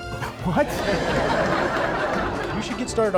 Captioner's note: canned laughter